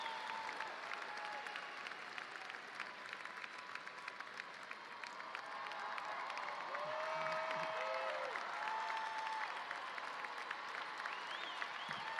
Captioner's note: cheers and applause